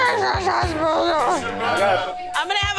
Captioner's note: woman grumbling